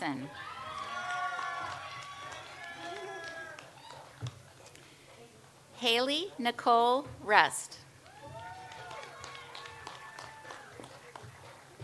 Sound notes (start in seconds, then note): 0.3 audience applauds; 8.0 audience applauds